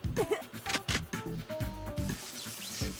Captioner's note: giggles